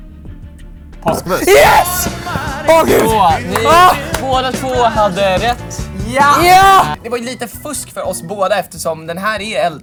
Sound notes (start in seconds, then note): 1.2 screaming